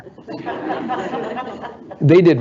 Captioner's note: audience laughing